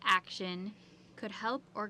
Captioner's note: speaking French